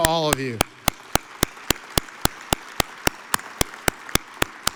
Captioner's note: audience applauds